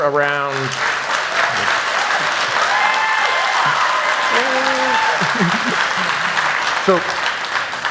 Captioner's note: applause